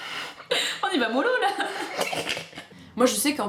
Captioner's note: laughter